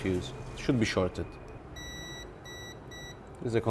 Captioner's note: multimeter beep